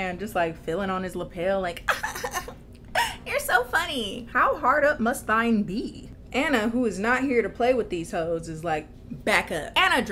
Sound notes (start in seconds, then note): 1.8 giggles